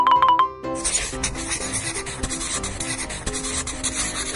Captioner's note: scribbling noises